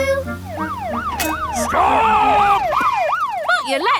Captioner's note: siren wailing